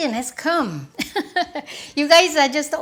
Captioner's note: laughs